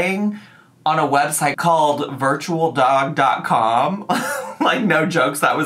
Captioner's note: laughs